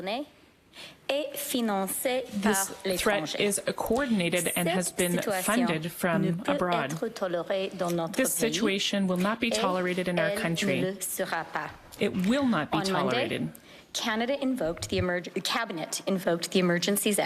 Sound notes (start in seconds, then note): 2.9 speaking French